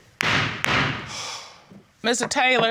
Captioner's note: gavel banging